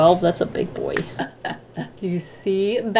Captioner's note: laughs